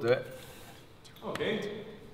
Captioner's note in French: A voix basse